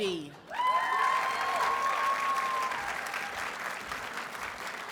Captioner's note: audience cheers and applauds